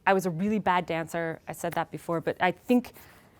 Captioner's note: none